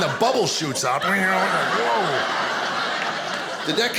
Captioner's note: audience laughing